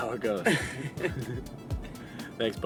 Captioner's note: laughing